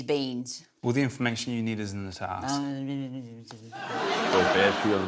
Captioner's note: murmurs mockingly